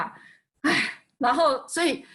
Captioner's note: sigh